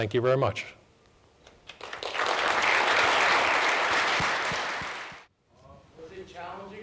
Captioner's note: applause